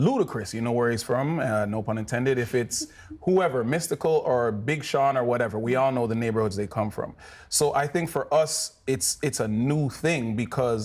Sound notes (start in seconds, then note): 2.5 chuckles